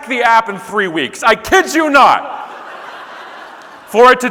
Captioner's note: audience laughing